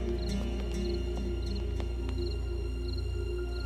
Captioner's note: Footsteps